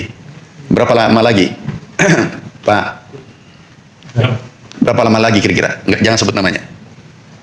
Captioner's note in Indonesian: berdehem